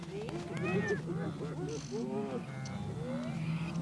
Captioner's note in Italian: versi di animali